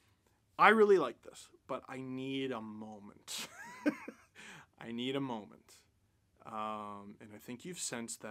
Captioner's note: laughter